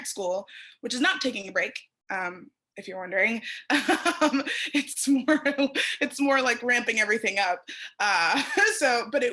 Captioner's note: laughter